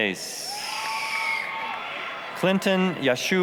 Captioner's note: applause, cheering